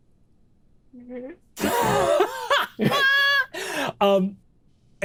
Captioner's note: laughs